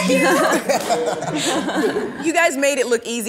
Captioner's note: everyone laughs